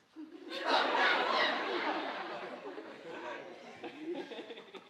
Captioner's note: audience laughing